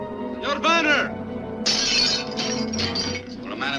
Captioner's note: glass shatters